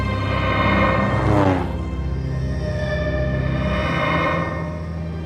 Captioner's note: aircraft whirring